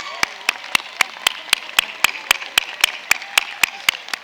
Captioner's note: cheers and applause